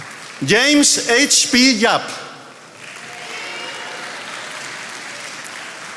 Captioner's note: attendees applauding